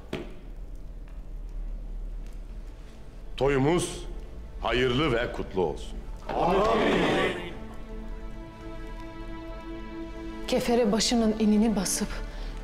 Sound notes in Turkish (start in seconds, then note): 6.2 Hep bir ağızdan